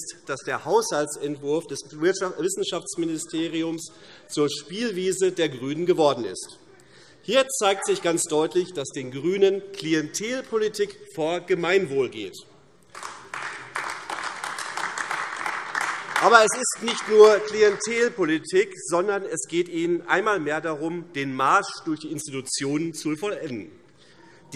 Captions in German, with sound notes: dass der Haushaltsentwurf des Wissenschaftsministeriums zur Spielwiese der GRÜNEN geworden ist. Hier zeigt sich ganz deutlich, dass den GRÜNEN Klientelpolitik vor Gemeinwohl geht. [Beifall AfD] Aber es ist nicht nur Klientelpolitik, sondern es geht Ihnen einmal mehr darum, den Marsch durch die Institutionen zu vollenden.